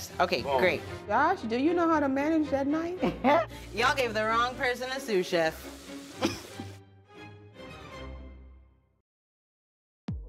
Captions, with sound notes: - On that? Yes. Okay great. - Josh do you know how to manage that knife? - Y'all gave the wrong person a sous chef. (chuckles)